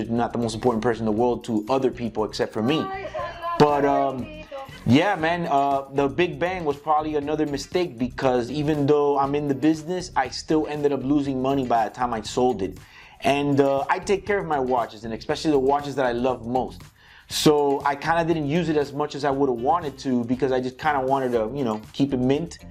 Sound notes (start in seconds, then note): 3.1 grandma speaking in Spanish